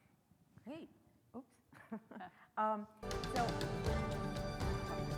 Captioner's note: laughs; uplifting music